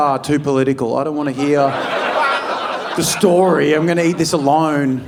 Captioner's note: audience laughing